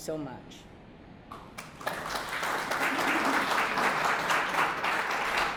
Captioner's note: applause